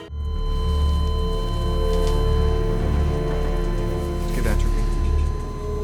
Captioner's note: dark music; flat lining